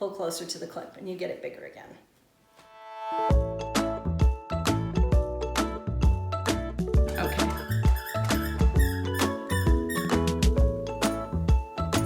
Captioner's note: happy music; squeaky toy squeaking in the background